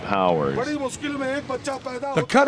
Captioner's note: non-english speech